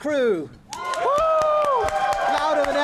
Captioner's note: applause